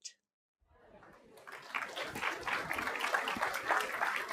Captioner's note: applause